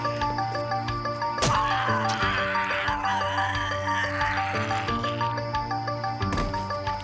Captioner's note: screaming